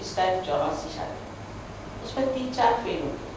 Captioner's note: hindi